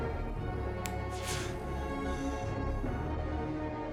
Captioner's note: fingers snap